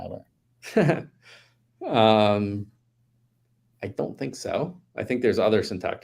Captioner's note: chuckles